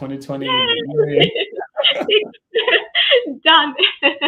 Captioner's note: laughter